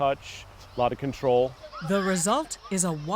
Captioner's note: children playing